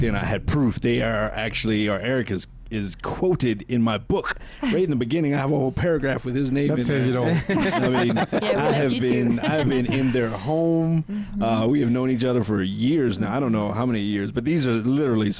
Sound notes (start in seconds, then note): 7.1 laughing